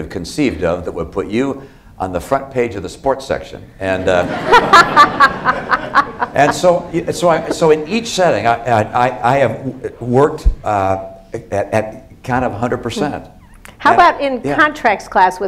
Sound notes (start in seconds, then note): 4.0 laughter